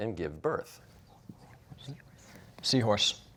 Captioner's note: whispering